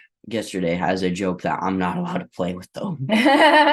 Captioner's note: laughter